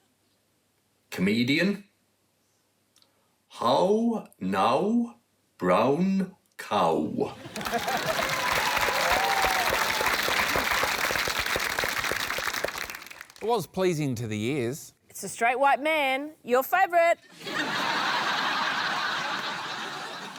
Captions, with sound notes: Comedian. How now, brown cow. (CHEERING, APPLAUSE) It was pleasing to the ears. It's a straight white man - your favourite! (LAUGHTER)